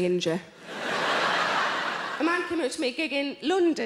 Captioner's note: audience applauds